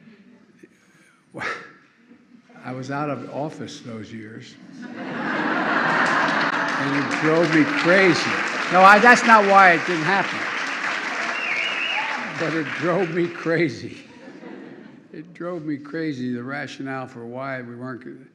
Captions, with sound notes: I was out of office those years. -- (laughter and applause) -- and it drove me crazy. No, I -- that's not why it didn't happen, but it drove me crazy. (Laughter.) It drove me crazy, the rationale for why we weren't --